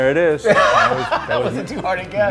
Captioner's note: laughter